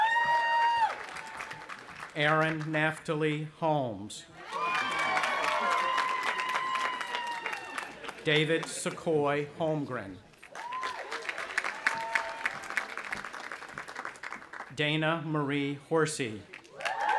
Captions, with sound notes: (cheering) Aaron Naphtali Holmes. (audience applauding and cheering) David Sequoy Holmgren. (audience applauding) Dayna Marie Horsey.